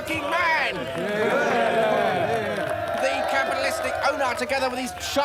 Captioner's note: cheering